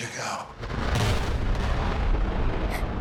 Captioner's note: thunder rumbles